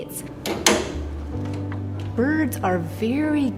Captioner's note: door clicking